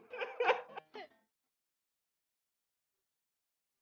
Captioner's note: laughs